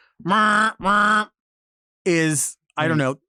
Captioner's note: imitates a car horn honking